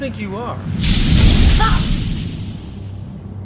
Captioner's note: whoosh